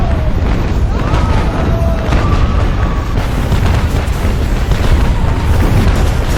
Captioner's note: explosions booming; soldiers shouting